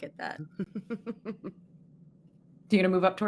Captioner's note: laughing